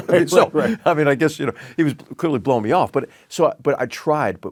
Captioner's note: laugh